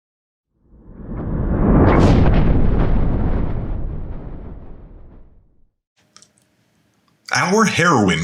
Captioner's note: thunder